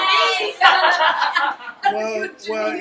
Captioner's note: background laughing and heckling